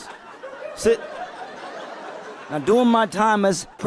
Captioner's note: people laughing